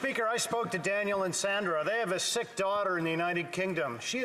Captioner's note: some Applause